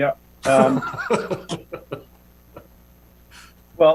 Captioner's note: chuckling